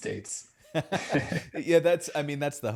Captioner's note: chuckles